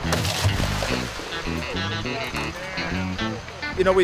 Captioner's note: bucket sloshing